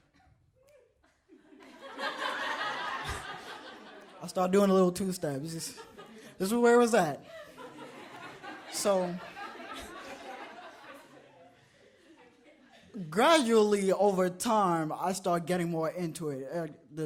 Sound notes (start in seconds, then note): 1.1 audience laughs; 7.2 audience laughs